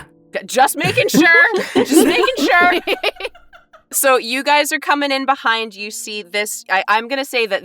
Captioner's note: EVERYONE laughs